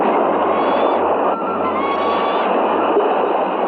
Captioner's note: bird shrieking